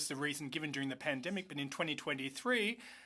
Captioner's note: speaking French